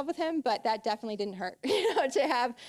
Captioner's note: laughing